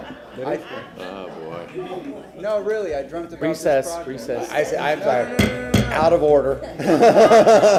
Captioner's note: laughter